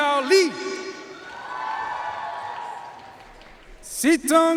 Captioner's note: audience cheering and applauding